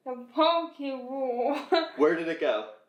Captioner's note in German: lacht